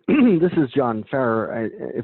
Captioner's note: coughs